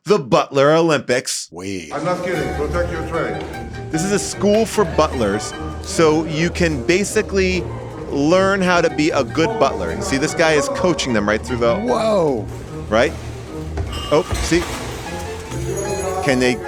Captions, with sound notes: The Butler Olympics. - Wait- - I'm not kidding. Protect your player. - This is a school for butlers. So you can basically learn how to be a good butler. See, this guy is coaching them right through the- - Whoa. - Right? Oh, see? (cutlery clacking) - It's your job- - Can they-